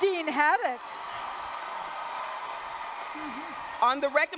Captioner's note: cheers